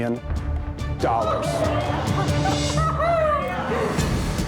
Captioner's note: all laughing